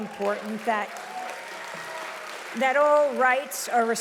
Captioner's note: audience applauding loudly